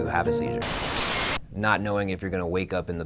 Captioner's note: static buzzes